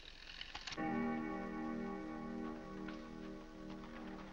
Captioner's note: clock chimes